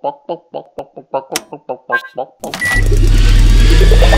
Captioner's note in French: bip; son de science-fiction